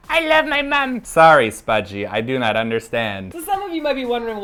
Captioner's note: Siri, with the robotic-like voice